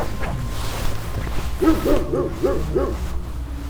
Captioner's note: dog barking